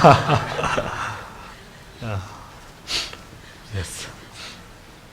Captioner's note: audience laughs